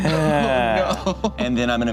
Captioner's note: laughs